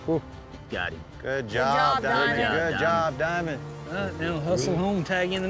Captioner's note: shouting encouragement